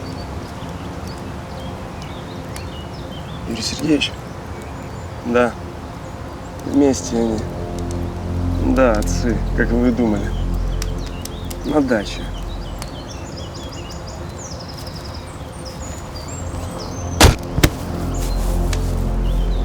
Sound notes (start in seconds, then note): 0.0 birds chirping; 17.3 thump